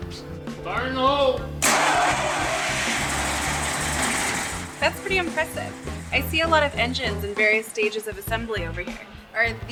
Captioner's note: engine starts